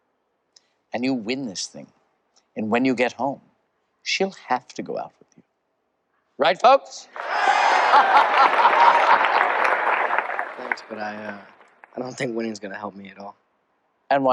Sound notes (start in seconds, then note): 10.0 crowd chatter